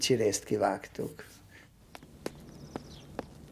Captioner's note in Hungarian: madárcsicsergés